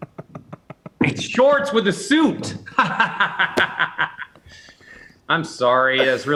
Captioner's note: laughs